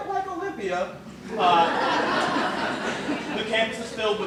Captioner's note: laughter